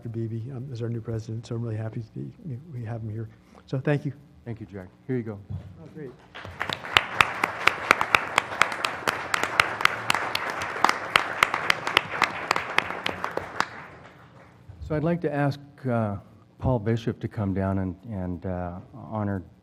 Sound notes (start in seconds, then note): 6.1 applause